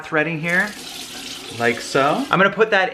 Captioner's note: water running